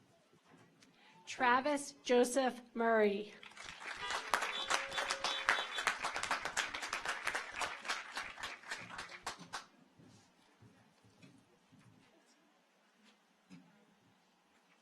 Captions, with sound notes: Travis Joseph Murray. (audience applauds) (car horns honking)